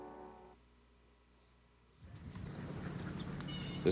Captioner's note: birds cawing and quacking